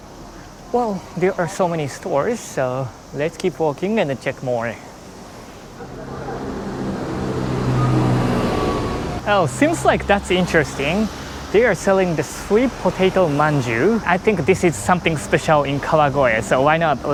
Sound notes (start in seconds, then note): 6.5 bus rumbles